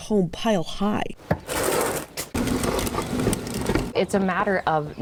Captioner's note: wheels clanging